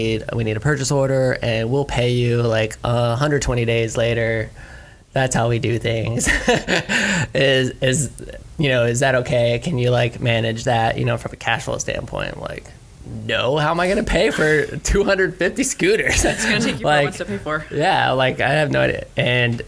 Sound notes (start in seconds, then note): 16.0 laughs